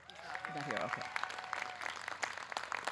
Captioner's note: audience cheering